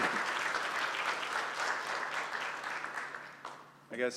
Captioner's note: applause